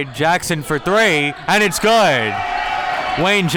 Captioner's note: cheering